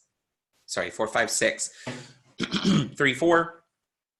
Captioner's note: clears throat